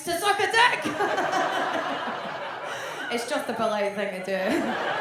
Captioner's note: audience laughs